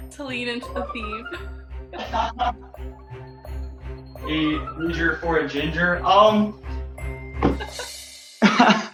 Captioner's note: laughter